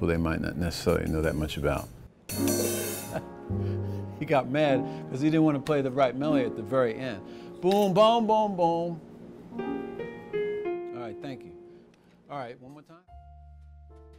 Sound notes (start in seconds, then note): 3.0 laughing; 8.9 piano playing